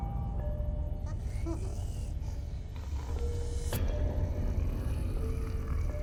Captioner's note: Giree growling softly